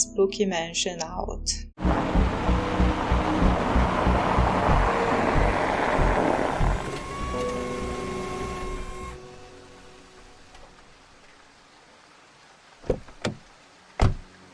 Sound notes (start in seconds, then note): 1.8 parking the car noises; 1.8 rain; 14.0 car door opening and closing